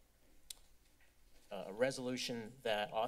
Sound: clicks tongue

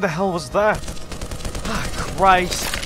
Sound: gunfire

